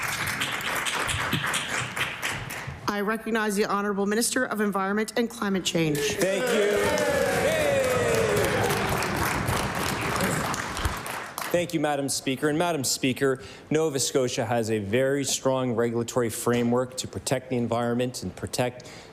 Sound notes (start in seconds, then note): 10.4 cheering/Applause